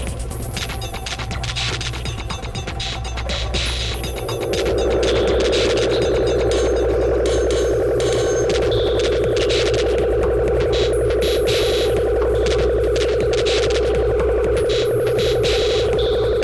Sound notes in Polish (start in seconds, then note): 0.1 Częste metaliczne uderzenia; 4.0 Nagłe, silne, oscylujące dudnienie